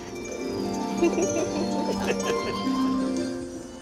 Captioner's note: laughs